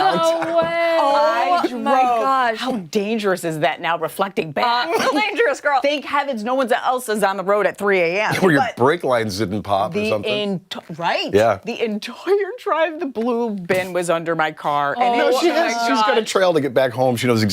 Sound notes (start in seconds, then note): 4.8 laughter